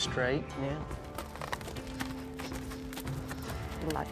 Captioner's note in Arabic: ضربات حوافر